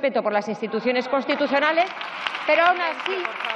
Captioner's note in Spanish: protestas.-Aplausos